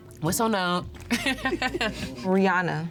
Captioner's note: laughs